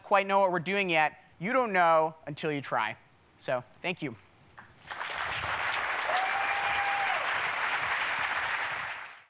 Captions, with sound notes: quite know what we're doing yet, you don't know until you try. So thank you. [clapping and cheering]